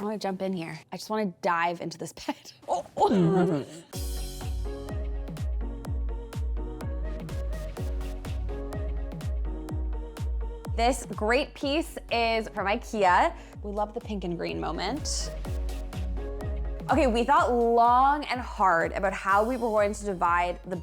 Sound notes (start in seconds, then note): 2.9 moans; 3.9 soft music; 15.2 soft music